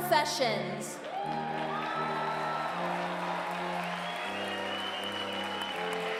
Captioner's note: applause